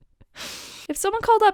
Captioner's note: inhale